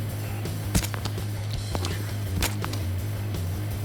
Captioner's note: squishing